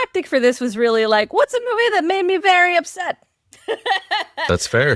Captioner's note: laughs